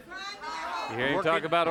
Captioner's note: audience hollers